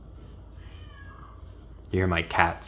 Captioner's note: cat meows